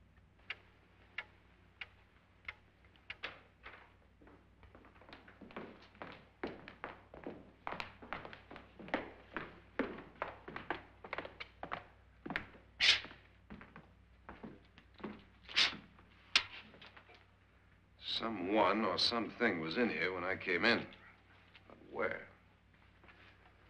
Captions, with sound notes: (clock ticking) (door opens) (Lance & Nora's footsteps) (match strikes) - Someone or something was in here when I came in...but where?